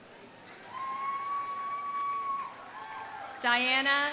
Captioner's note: audience cheering; audience applauding